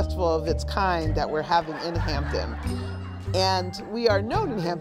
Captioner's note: audience laughs